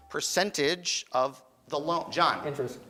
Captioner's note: beeping